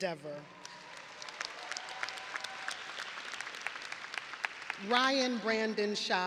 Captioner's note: audience applauding and cheering